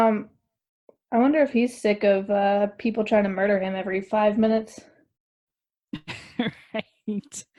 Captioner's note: laughs